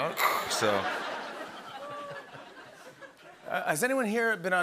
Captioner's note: laughter